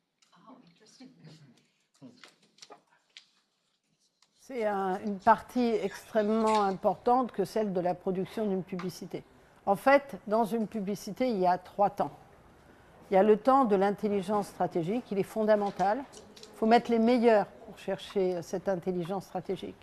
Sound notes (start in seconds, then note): 4.3 non-english speech